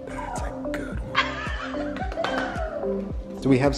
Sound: laughing

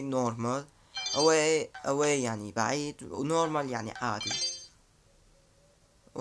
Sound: translating in Arabic

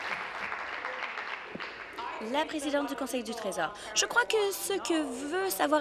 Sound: applause

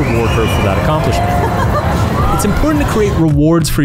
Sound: laughs

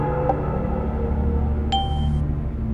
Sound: ding.wav

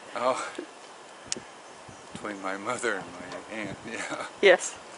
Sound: laughing

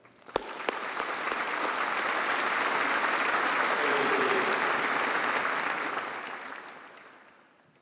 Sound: applause

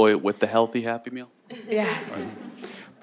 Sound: laughs

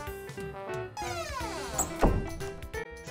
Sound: door closing

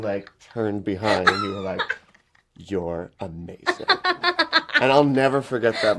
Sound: she laughs

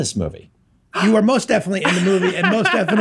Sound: gasps; laughs

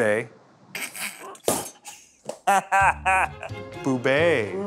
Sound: snorts with laughter

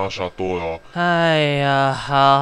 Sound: sighs in chinese

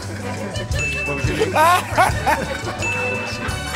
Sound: ding!; ding!

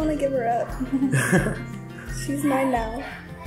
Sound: laugh

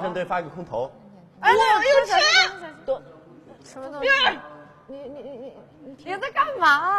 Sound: screaming... illegible dialogues

